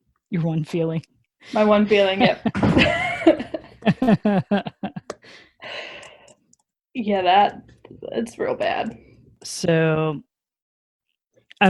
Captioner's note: both laugh